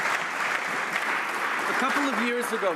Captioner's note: some Applause